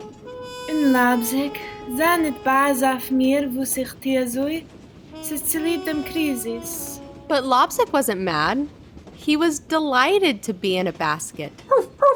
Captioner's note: Yiddish